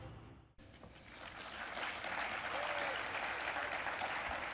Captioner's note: applause